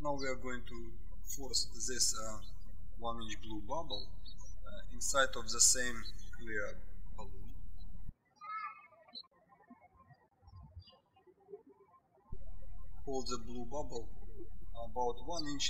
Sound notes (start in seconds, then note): 8.3 birds chirping